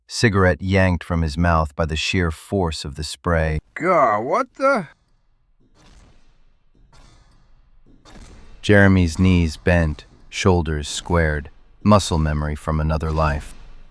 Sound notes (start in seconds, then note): 8.6 SFX: Giant mechanical stomping